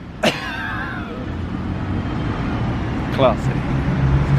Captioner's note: fake coughs